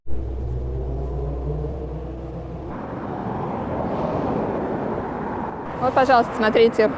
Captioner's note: city sounds